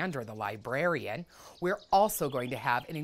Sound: birds chirping

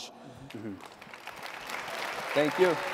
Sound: audience clapping

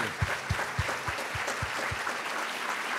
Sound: applause

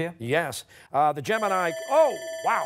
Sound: buzzer rings

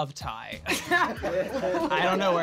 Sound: laugh

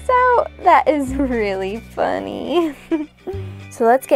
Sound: giggles

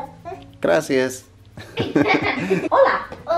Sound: laughter

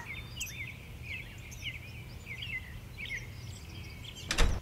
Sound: birds chirping; door closes

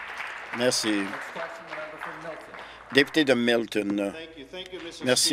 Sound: applause

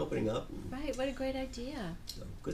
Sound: voiceover

